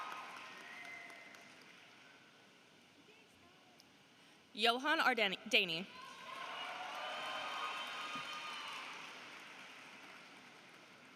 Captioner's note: applause